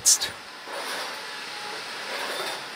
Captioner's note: whirring, clattering